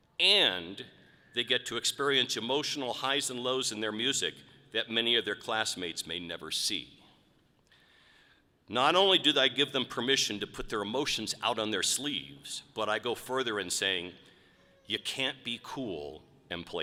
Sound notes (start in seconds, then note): none